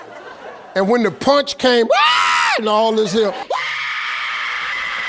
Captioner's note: screaming